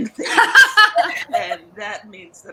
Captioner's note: all laughing